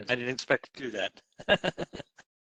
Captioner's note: laugh